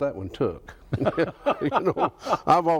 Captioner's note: both laugh